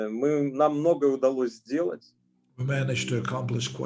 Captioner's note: speaking Russian language